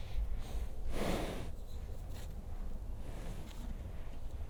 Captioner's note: horse breathing